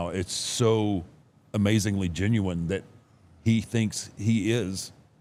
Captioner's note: none